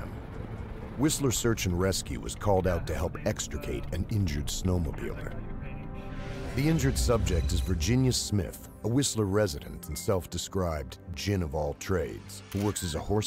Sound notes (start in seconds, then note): 5.5 search and rescue alarm tones bleep; 10.1 voiceover